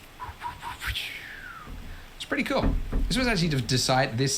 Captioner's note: whistles